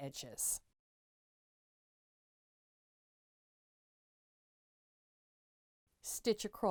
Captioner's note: no Sound Present